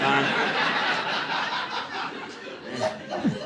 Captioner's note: audience laughing